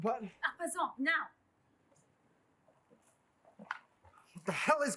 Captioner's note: speaking foreign language